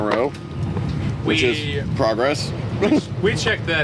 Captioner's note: giggle